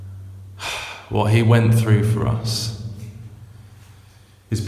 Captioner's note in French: soupir